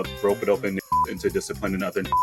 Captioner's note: beep